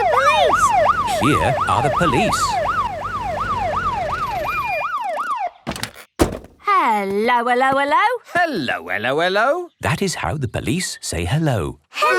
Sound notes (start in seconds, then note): 5.8 siren stops